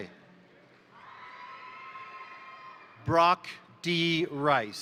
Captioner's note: crowd applauding; crowd cheering